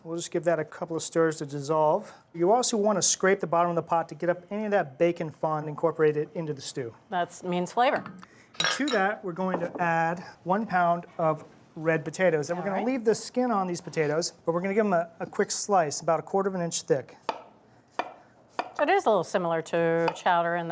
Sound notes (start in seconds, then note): 18.5 knife chopping